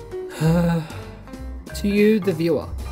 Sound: sighs

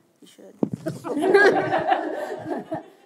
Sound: laughter

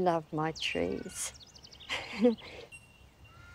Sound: laughs

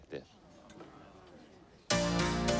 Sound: guests murmur

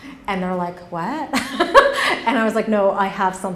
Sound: laughs

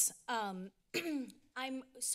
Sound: clears throat

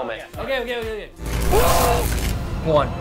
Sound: buzzing; shouting

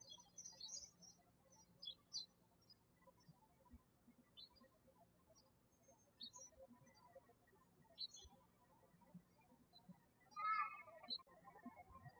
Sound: birds chirping

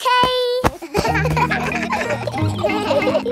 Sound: kids laughing

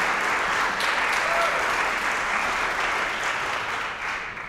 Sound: applause, cheering; applause

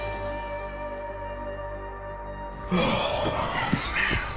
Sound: bugs chirping

